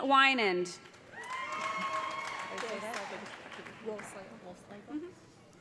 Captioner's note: cheers and applause